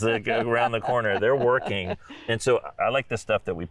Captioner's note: laughing